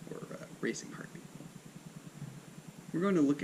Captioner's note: a racing heartbeat